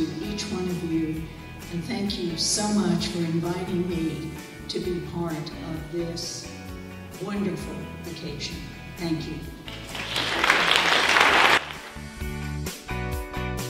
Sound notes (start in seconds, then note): 9.6 applause